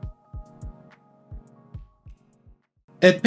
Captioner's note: deafening silence